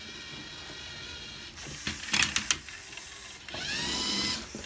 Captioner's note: robot whine